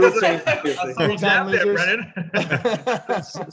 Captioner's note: everyone talking and laughing